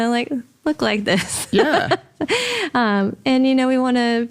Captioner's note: laughs